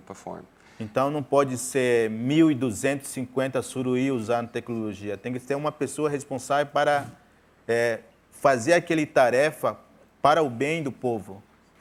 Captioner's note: speaking in portuguese